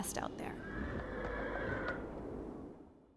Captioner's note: horse whinnying